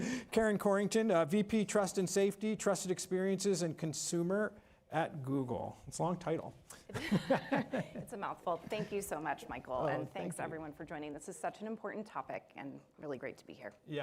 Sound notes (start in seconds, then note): 6.9 chuckling